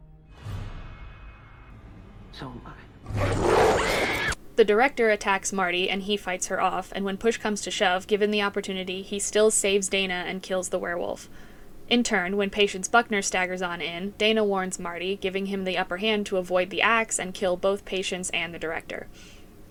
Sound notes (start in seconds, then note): 3.5 Dana screams